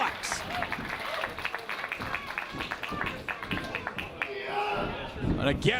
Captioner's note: applause